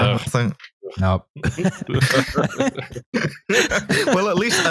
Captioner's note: laughter